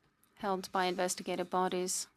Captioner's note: speaking French